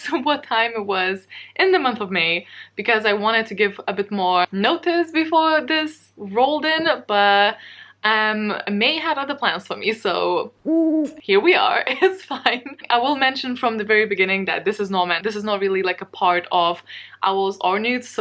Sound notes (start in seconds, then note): 10.6 owl hoot